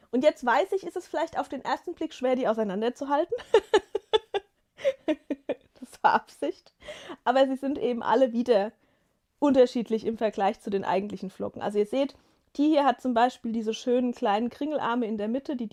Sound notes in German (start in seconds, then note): 3.3 gelächter